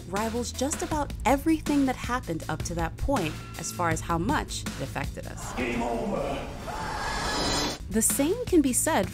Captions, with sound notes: rivals just about everything that happened up to that point as far as how much it affected us. - Game over. (person screaming) - [Voiceover] The same can be said